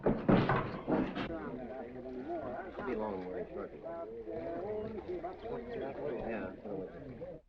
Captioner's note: men chattering